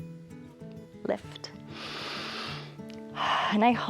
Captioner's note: inhales and exhales